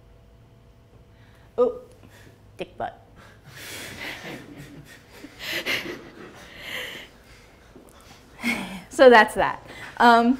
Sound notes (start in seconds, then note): 3.3 laughs